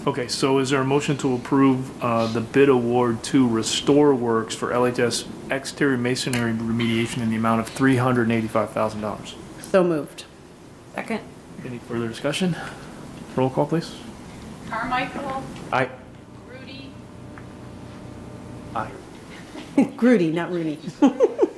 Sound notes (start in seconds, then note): 20.9 board member laughs